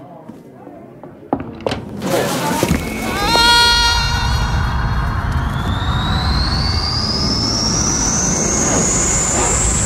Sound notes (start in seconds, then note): 2.8 screaming; 4.7 wind whistling